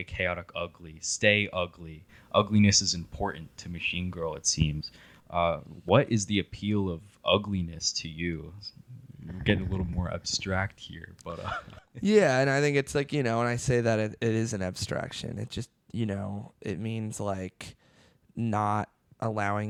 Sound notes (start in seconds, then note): 11.3 laughs